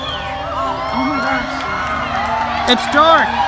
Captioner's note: cheering